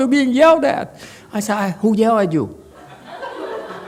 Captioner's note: audience laughs